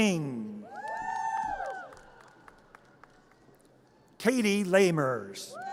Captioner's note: audience cheers